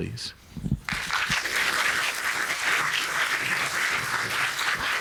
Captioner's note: audience applauding